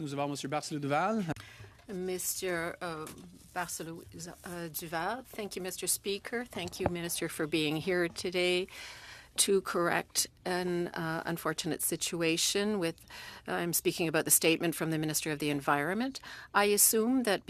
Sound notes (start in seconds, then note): 5.2 speaking French